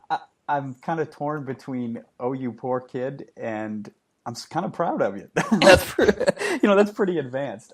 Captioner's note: laughing